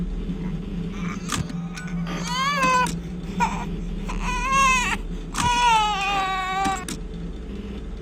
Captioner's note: crying